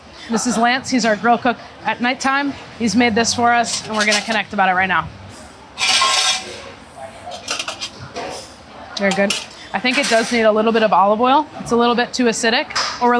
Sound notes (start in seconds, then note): 5.7 utensils clanking